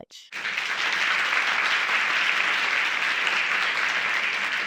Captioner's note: audience clapping